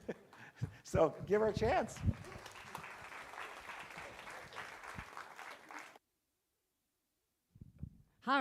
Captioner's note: crowd clapping